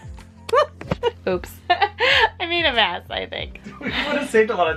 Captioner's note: laughs